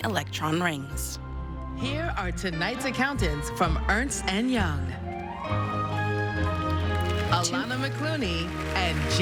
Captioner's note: applause